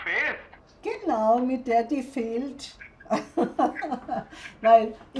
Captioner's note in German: Sie lacht